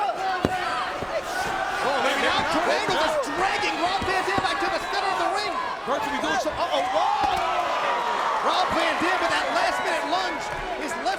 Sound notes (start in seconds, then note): 1.6 crowd cheering; 7.1 mat slapping